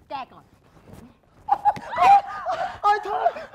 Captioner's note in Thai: ร้อง